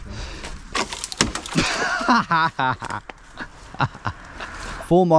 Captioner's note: branch cracking; laughing